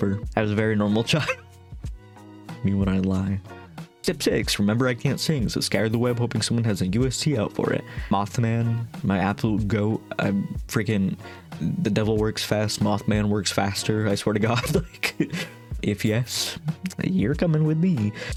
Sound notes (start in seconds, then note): 1.0 laughing; 14.4 laughing